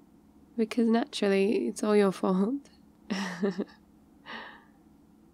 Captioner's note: laughs